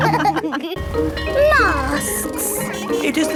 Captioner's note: bell ringing